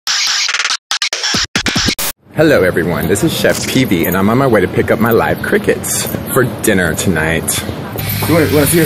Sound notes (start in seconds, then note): 0.0 screeching noises